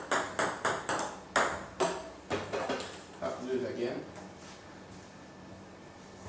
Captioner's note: ball ping pong hitting